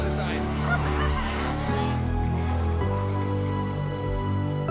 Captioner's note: laughs; gentle music